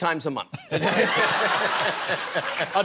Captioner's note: laughter